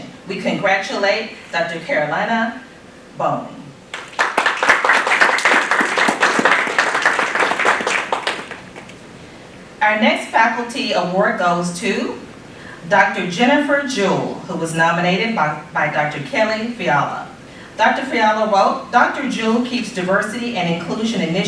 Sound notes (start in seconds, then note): 3.9 applause